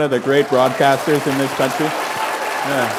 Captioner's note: applause